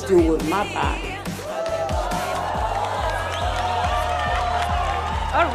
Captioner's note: hooting and hollering